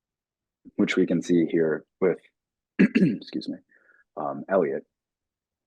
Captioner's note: clearing throat